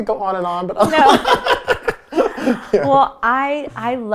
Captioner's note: laughing